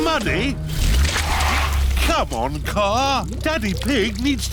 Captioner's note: wheels screech